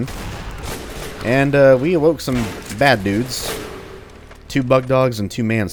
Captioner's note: boom